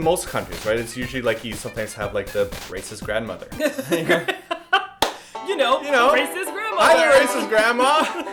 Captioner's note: laughs